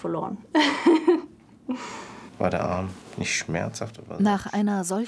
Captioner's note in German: Lachen